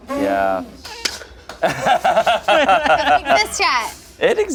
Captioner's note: group laughs